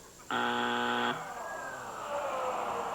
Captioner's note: buzzer